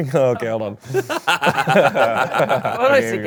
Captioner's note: all laugh